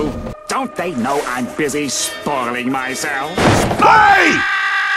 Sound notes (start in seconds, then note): 3.7 loud scream-galore